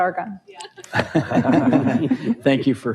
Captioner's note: audience laughs